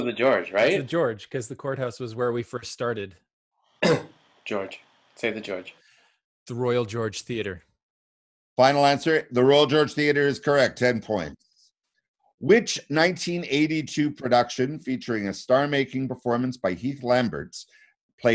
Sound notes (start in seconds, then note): 3.8 coughing